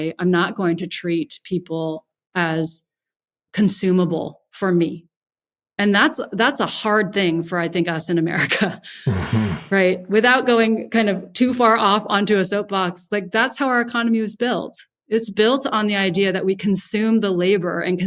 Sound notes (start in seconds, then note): 9.0 laughs